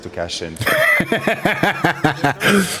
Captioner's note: laughs